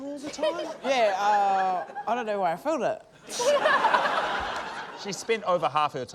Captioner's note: laughter